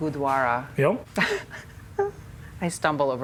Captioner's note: laughs